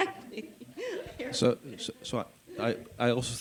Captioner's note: chuckles